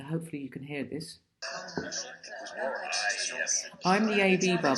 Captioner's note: chattering